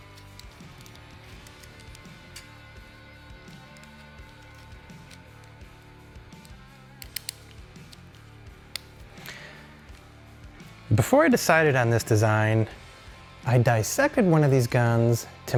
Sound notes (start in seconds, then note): 1.0 upbeat rock music; 7.0 screw clicking